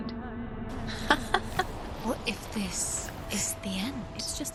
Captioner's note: laughter